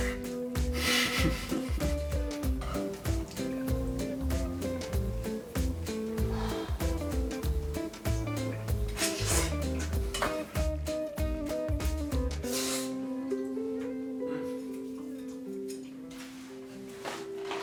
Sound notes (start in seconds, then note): 0.7 slurps; 0.8 laughs; 9.7 slurps